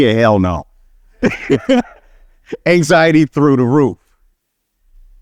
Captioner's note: laughing